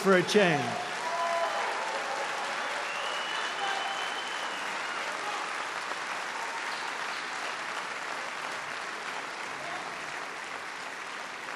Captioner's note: applause